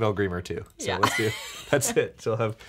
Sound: laughing

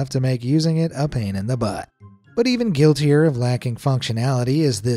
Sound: none

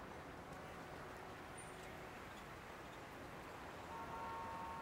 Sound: horns honking

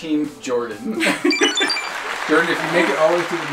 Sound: laughs; high-pitched beeps

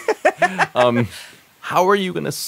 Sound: laughs

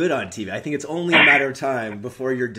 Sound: chuckles

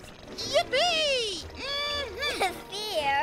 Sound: laughing

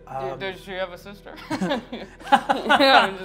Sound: laughs

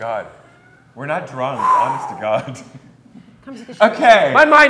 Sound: chuckles

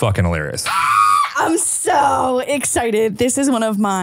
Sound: screams

